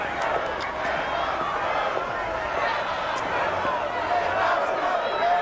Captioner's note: crowd chanting